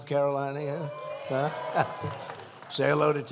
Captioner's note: applause